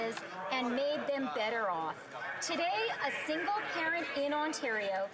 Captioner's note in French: voix de l'interprète